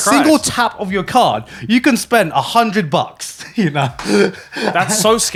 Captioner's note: chuckles